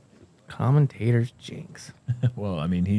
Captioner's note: laughs